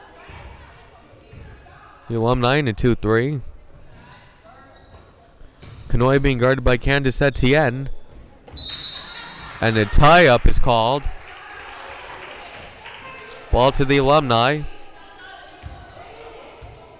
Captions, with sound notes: The Alumni in a 2-3. Kanhoye being guarded by Kandis Etienne. (whistle blowing) And a tie-up is called. Ball to the Alumni.